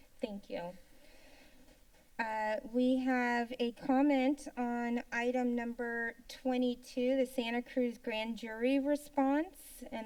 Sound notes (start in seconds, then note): none